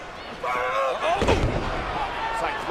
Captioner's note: Punk grunts